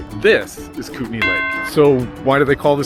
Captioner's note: bell dings